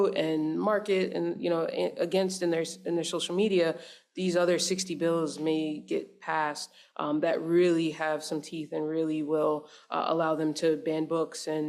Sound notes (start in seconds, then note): none